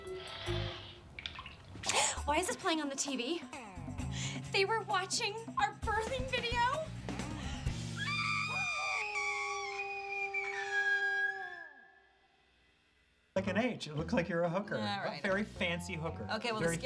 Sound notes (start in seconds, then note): 7.3 gasps; 10.7 screaming